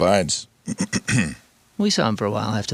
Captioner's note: clears throat